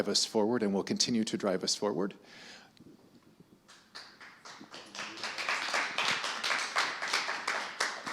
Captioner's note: applause